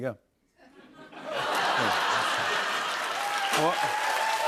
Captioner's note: laughter; cheers and applause